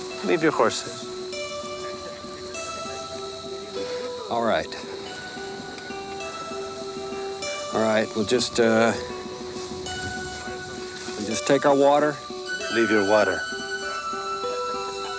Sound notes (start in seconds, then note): 1.8 gang members chuckle